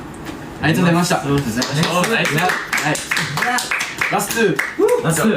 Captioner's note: clapping